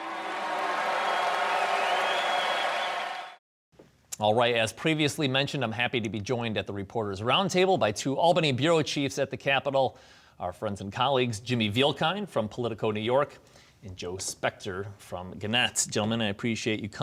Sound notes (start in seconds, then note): 4.2 applause